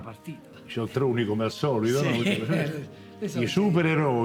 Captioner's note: laughter